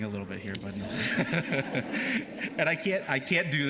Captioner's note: laughter